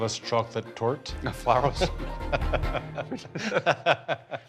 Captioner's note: laughing